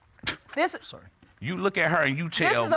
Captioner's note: scoffs